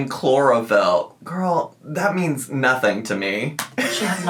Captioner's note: laughs